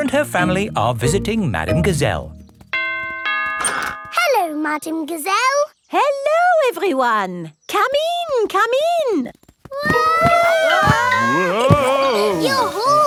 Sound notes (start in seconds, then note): 2.8 doorbell rings; 10.2 all yelling